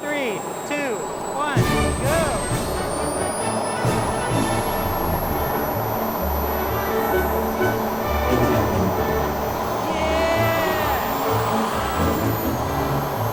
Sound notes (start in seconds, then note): 9.8 yells